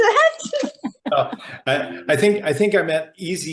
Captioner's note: laughing